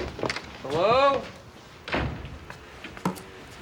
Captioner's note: door closes